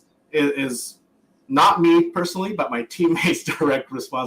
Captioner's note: laughs